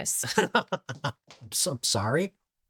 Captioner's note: Dillon chuckling